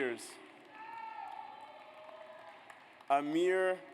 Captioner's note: audience applauds